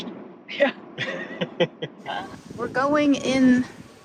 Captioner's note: chuckling